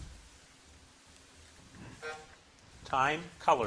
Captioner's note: buzzer buzzing